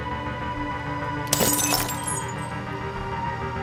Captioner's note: glass shatters